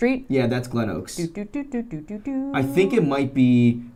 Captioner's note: humming melody